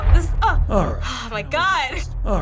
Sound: sighs

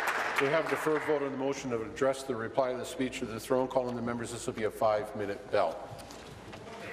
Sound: applause

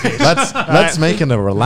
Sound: laughs

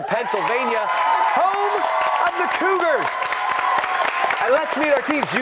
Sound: cheers and applause

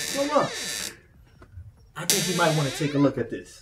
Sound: door opening

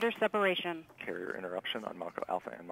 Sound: female Radio Voice; male Radio Voice

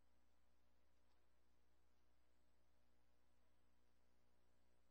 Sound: talking off mic

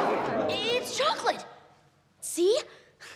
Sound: alarmed crowd noises

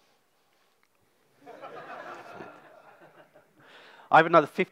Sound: audience laughs

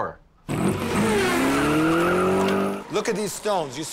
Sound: engine roaring

